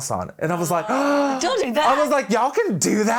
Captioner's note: gasping